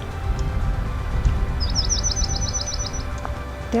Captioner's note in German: Vogelgezwitscher